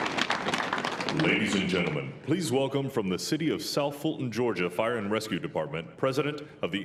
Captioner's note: applause